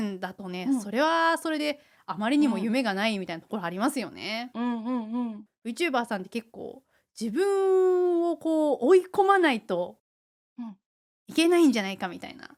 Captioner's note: laughs